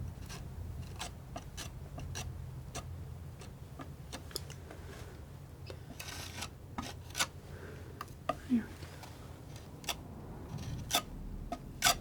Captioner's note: sculpture sounds